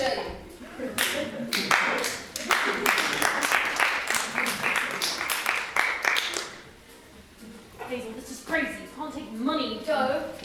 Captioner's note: applause